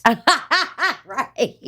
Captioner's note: laughing